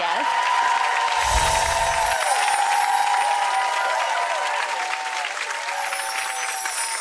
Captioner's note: audience laugher; audience applause; magical chimes